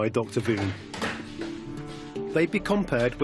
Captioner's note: lab noises